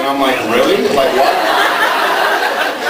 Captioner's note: laughs